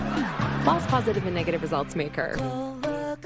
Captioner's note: audience: laugh track